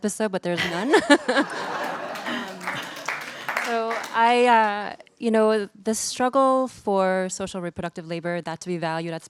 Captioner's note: laughter